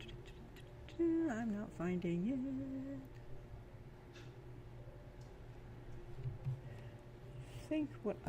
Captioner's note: nonsense muttering while searching; sing-song